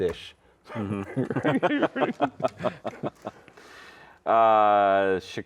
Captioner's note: laughing